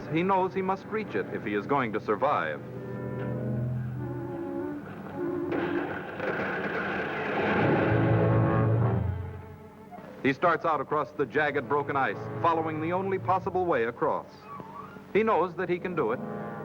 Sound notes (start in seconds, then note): 2.7 instrumental music; 5.6 ice cracking